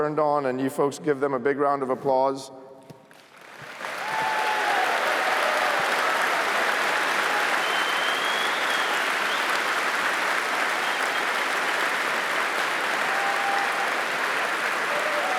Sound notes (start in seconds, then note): 3.0 applause